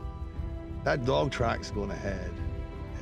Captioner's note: scottish accent